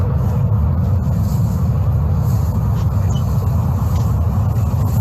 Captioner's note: plants rustling